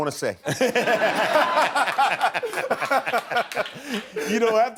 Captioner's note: laughter